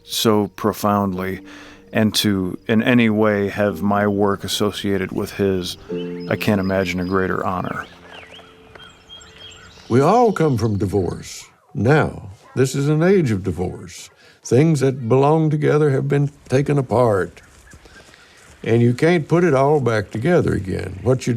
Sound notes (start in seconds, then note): 8.4 birds chirping; 8.4 inspirational music